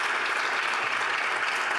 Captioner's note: applause